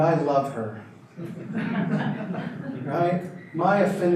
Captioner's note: audience laughter